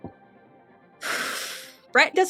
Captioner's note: sigh